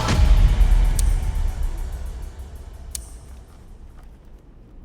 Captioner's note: revolver clicking